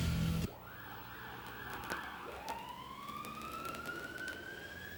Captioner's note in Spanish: Sirene ao longe tocando